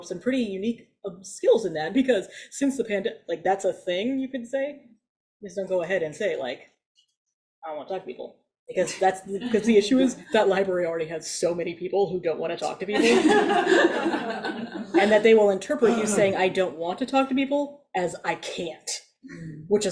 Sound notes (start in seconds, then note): 12.9 audience laughs